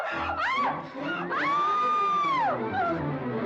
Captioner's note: screaming